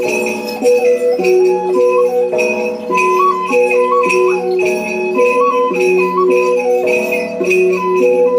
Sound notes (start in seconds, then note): 6.4 bell